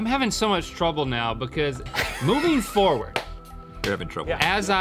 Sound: chuckling

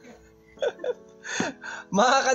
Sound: laughing

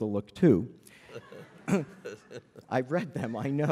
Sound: laughter

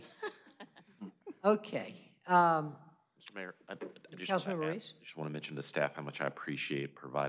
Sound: laughter

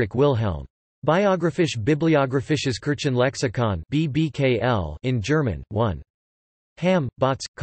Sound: in German

